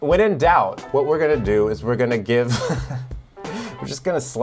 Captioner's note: chuckles